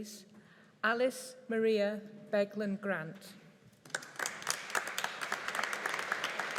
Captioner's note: audience applauding